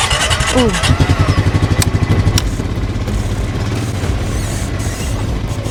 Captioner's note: deep four-stroke utility ATV engine cranks up and idles loudly